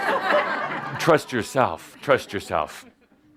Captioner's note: laughter